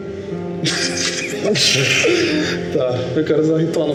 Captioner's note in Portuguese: Risadas